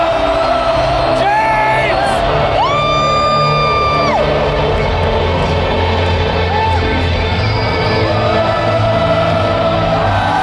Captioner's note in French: Applaudissements